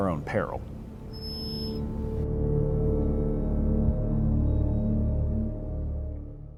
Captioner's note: ominous music; logo beeps